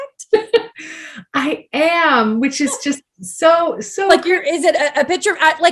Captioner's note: laughs